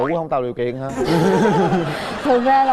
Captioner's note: laughing